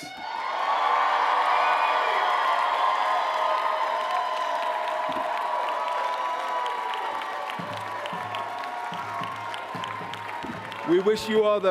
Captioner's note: loud cheering and applause